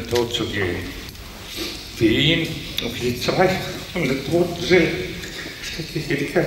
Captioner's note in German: schluchzt